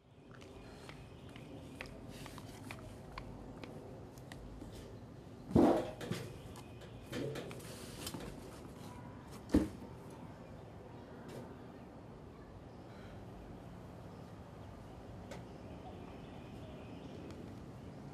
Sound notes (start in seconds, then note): 5.8 clattering